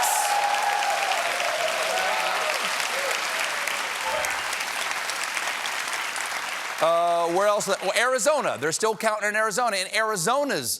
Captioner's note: cheers and applause